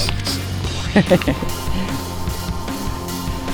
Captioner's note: laugh